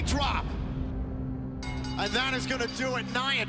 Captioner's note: bell ringing